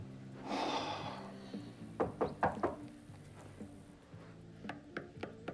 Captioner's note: Mark sighing; knocking